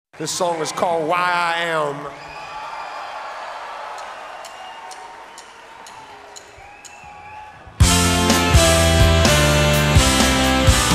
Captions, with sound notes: - This song is called "Why I Am." (audience cheering) (drumsticks tapping) (upbeat rock music)